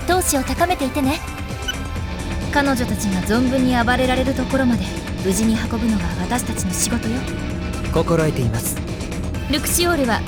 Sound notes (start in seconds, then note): none